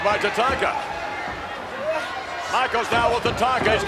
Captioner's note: audience cheers